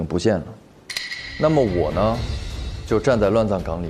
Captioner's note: dong